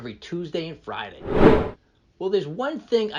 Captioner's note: air whooshing